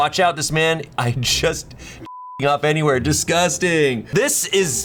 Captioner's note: beeps